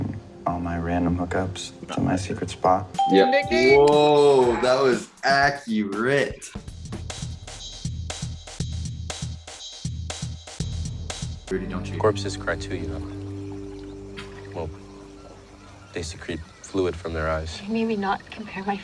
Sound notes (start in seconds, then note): 3.0 ding